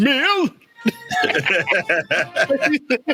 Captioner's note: laughing